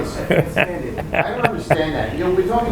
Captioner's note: laughing